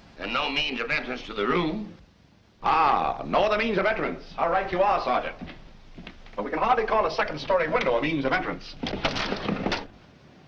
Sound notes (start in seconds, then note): none